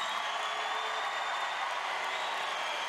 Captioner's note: applause